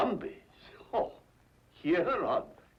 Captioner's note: chuckles